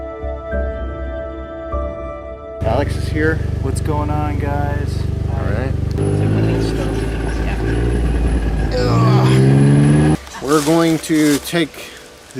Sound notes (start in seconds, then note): 8.0 engine rumbling; 8.6 grunts